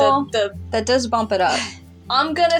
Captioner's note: exhale